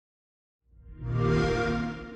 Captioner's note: xbox sound